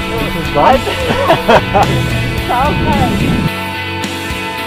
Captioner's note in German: Lachen